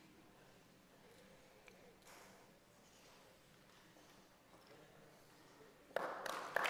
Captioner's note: applause